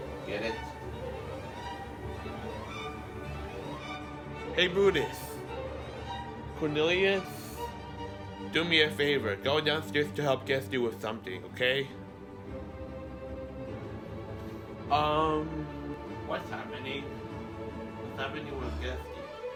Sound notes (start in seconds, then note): none